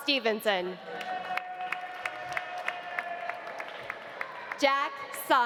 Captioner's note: audience cheering; audience applauding